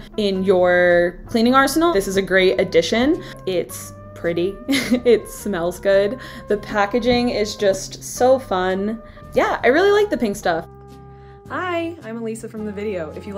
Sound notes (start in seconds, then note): 4.5 laughs